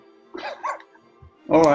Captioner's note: sniggering